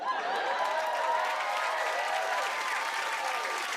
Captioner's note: cheers and applause